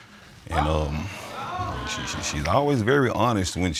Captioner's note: audience exclaiming